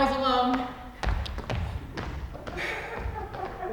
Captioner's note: footsteps exiting; audience laughs softly